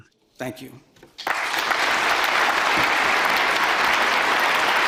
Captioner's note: people clapping